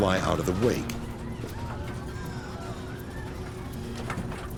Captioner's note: people wailing